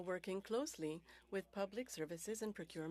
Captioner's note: speaking French